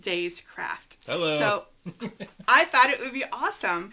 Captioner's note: laughs